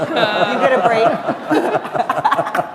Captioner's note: laughter